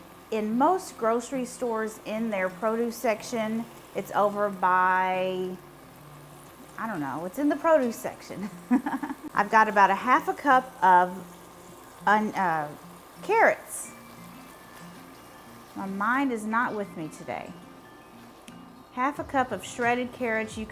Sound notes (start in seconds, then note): 8.4 laughs